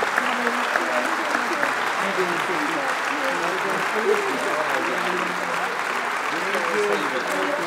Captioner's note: applause